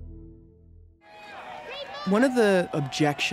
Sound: crowd shouting

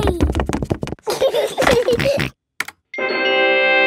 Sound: george giggles and snorts; video game music plays

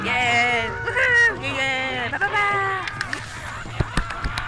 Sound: cheering

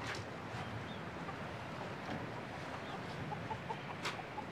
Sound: chickens cluck quietly

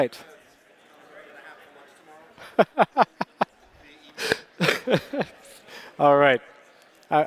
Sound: laughter

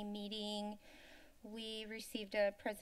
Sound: inhales

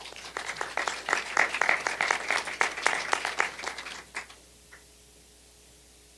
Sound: applause

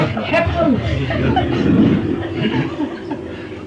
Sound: laughter

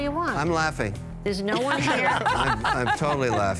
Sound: laughter

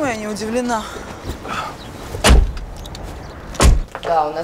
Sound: door clicks shut

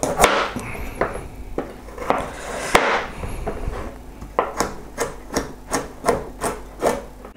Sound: chopping sounds

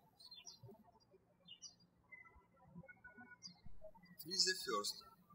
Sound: birds chirping

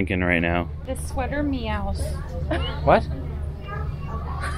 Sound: laughing

